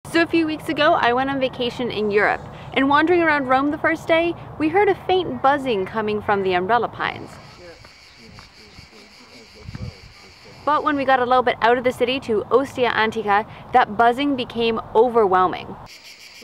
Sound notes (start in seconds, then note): 7.1 cicadas chirping